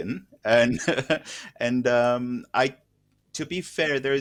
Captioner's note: laughter